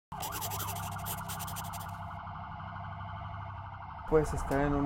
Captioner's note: ambulance sound